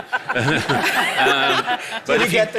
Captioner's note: audience laughing